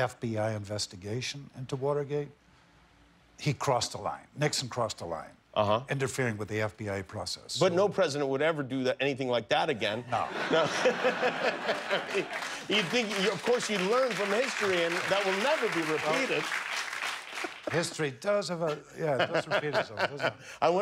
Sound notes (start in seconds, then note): 10.1 laughter; 13.5 applause